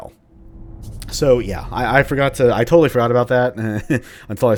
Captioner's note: chuckles